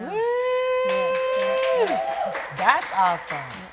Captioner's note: audience cheering